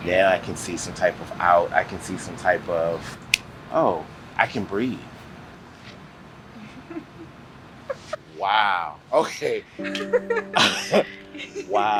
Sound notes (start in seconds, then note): 6.6 laughs; 9.9 laughter